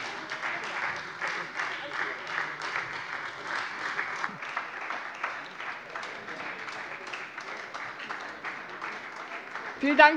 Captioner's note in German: Beifall Freie Demokraten und vereinzelt AfD